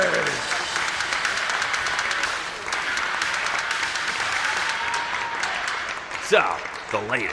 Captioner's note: applause